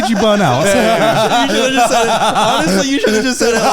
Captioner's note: all laughing